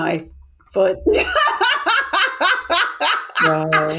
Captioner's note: laughs